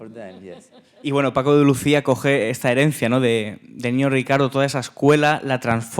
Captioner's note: speaking in Spanish